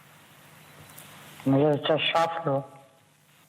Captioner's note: speaking Russian